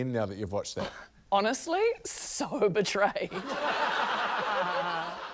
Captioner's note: laughter